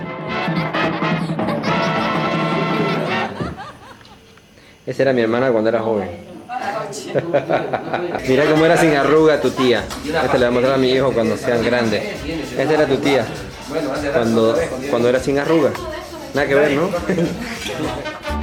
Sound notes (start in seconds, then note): 7.0 laughter